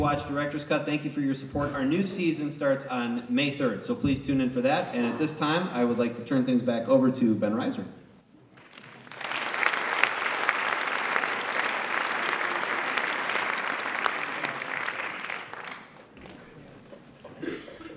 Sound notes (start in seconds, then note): 9.5 applause